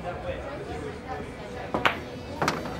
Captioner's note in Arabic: قعقعة كرة البلياردو